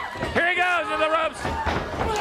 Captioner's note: crowd cheering